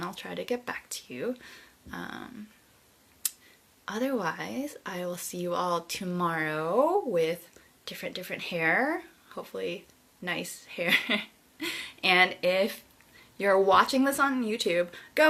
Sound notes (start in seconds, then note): 10.9 chuckles